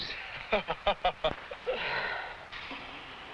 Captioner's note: man laughs